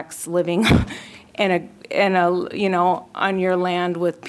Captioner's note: laughter